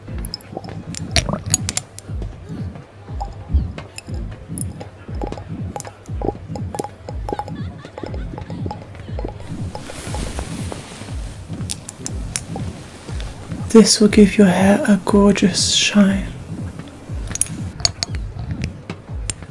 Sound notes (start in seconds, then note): 4.3 water splashing